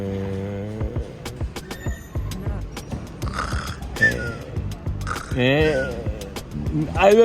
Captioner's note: snore and whistle